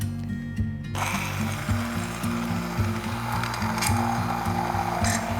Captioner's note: immersion blender whirs